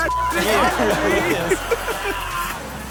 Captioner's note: crowd laughs